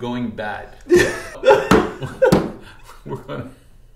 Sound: laughing

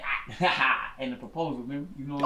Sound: laughing

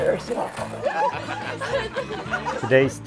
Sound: people laughing

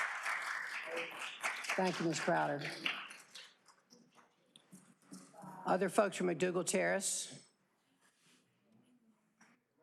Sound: applause

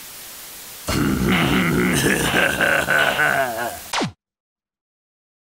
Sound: sinister laughter

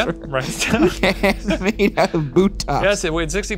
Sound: laughs

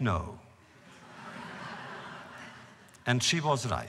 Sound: laughter

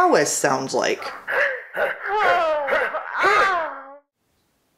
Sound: awkward and not sexy grunting and moaning

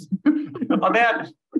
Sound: group laughs

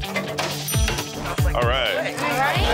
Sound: tense music; bell dinging

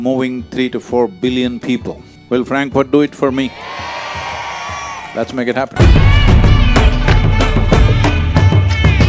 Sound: cheering/Applause

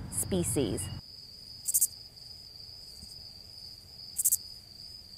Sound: crickets chirping

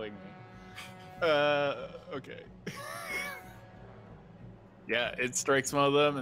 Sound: laughing

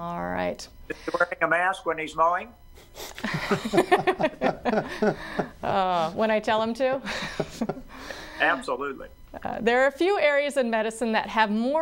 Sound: laughter

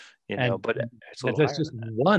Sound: group chattering

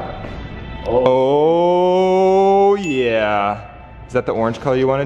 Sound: bell ringing

